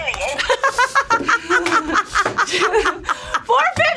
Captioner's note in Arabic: تضحك